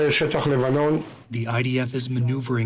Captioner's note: through translator